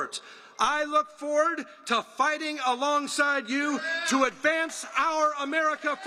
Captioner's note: applause